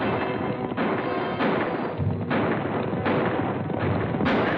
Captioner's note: firing